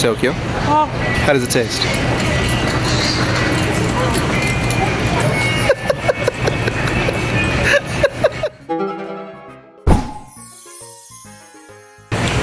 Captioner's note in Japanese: 大喜びで笑う